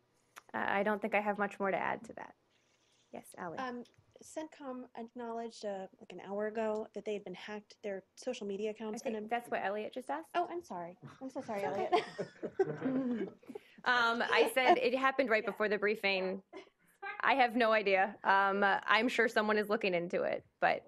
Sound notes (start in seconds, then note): 13.4 laughter